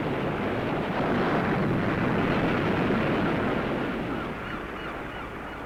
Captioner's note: seabirds squawking